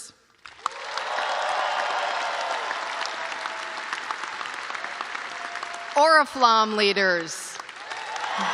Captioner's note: cheers and applause